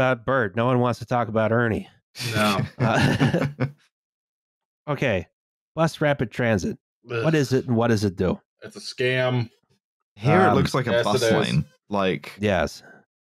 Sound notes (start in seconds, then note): 2.4 laughter